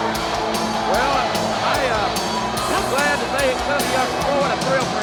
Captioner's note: speaks faintly